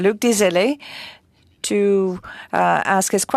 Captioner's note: speaking French